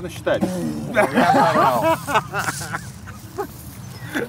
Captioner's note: all three laugh